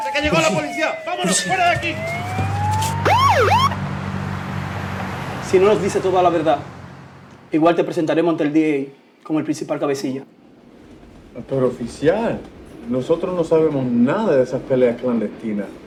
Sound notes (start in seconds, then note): 0.6 police Siren; 2.1 police Sirens